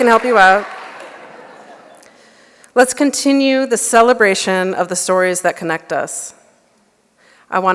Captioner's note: laughter